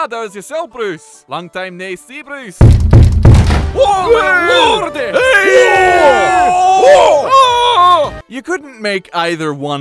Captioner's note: siege engines break open the gates, Bruces scream